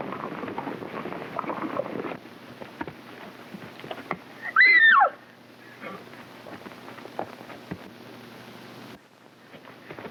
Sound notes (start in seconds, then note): 4.4 Mary shrieks